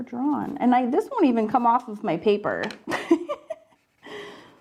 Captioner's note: laughs